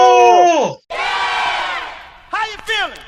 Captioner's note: all screaming